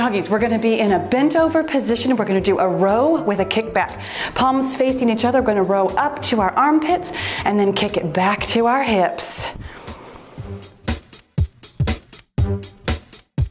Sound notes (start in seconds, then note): 3.5 timer beeps; 10.4 cheerful music